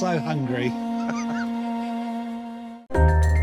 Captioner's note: laughs